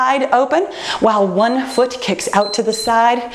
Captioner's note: timer beeps